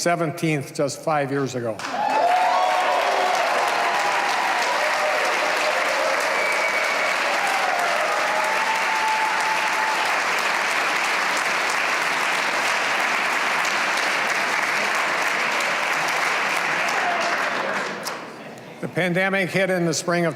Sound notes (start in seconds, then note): 6.3 cheers and applause